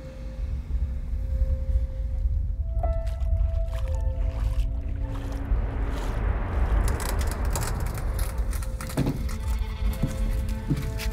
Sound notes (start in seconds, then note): 0.1 tense music; 2.5 water sloshing; 6.5 tense music